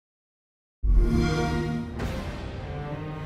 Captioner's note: xbox sound